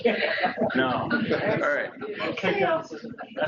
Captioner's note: laughter